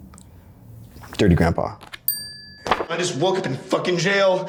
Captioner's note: bell dings